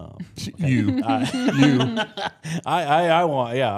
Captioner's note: laughs